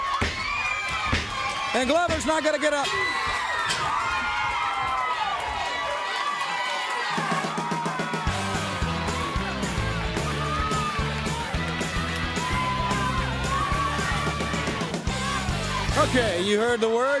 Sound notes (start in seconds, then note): 3.5 crowd cheering; 6.2 crowd cheering